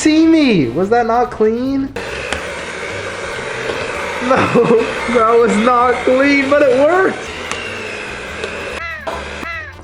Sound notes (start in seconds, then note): 1.9 machine whirring; 8.1 bird noises